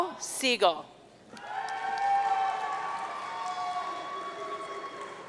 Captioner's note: audience cheering